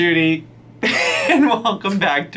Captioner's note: laughs